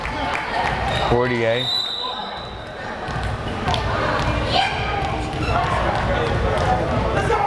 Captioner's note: whistle blares